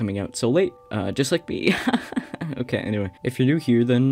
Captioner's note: fake laughter